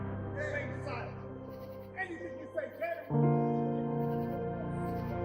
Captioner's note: yelling distorted